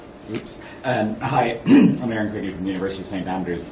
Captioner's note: coughs